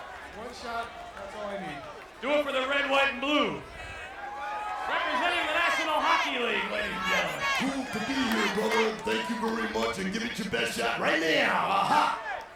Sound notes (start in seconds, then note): 3.8 applause